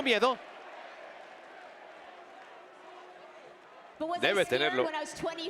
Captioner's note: applause